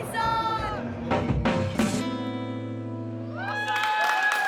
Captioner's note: applause